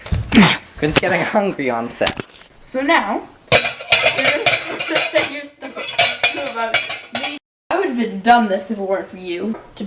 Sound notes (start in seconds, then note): 0.3 grunting; 5.6 pot lid clanging sounds